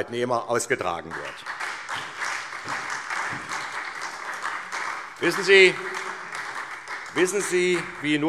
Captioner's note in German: Beifall SPD